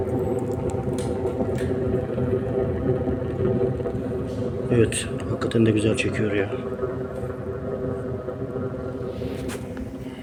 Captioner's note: sound of stove drawing air